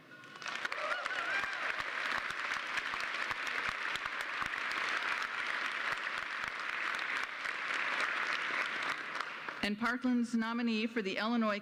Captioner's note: applause